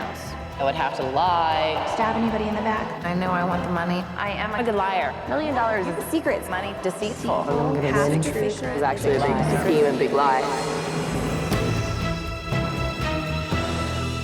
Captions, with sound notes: - I would have to lie. - Stab anybody in the back. - I know I want the money. - I am a good liar. - A million dollars. - The secrets. - Money is deceitful. - Only half truthful. (contestants chattering) - Is actually a lie. - Scheming a big lie. (dramatic music)